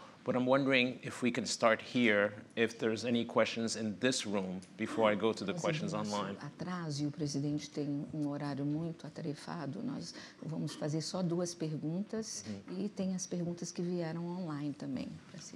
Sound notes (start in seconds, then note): 7.2 speaking portuguese